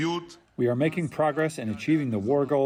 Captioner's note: through translator